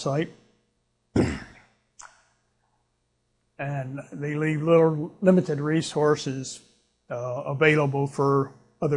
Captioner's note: clears throat